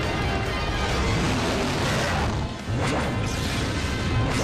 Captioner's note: roars